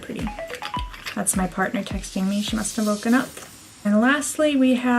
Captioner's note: phone noises